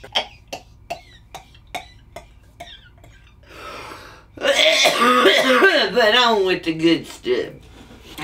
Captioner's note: laughs, coughs